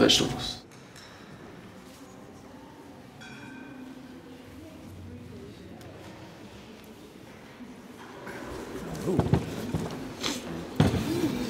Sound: crowd noise & plates clinking

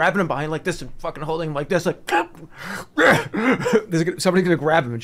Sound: gasping for air

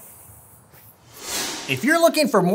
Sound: harsh whooshing sound

